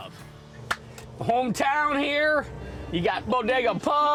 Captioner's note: claps